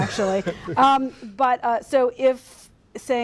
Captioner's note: laughter